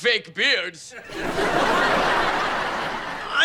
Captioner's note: audience laughing